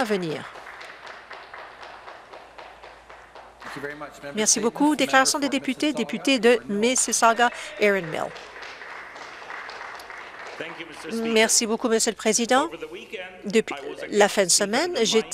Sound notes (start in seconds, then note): 4.1 some applause